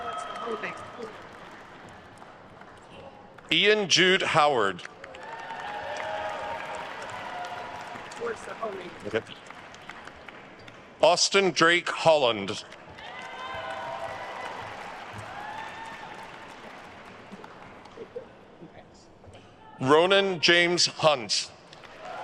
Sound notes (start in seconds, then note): 0.1 staff member speaking faintly; 3.8 attendees cheering and applauding; 8.3 staff member speaking faintly; 12.6 attendees cheering and applauding